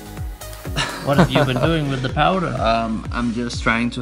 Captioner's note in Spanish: risas